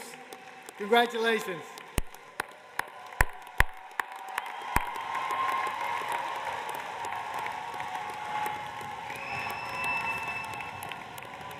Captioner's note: cheers and applause